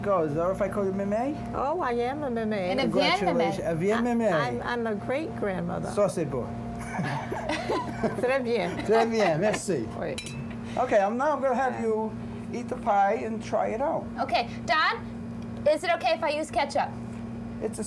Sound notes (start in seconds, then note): 5.7 speaking french; 6.8 laughter